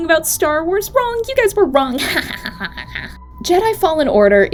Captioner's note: laughs mischievously